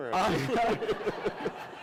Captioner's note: laughter